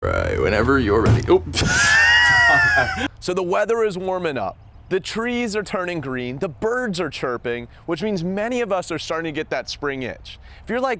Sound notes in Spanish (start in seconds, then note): 1.6 risas